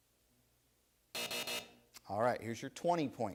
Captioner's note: buzzer sounds